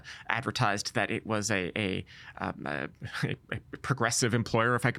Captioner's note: stammering